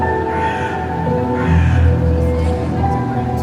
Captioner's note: crows cawing